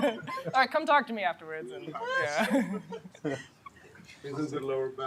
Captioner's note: laughter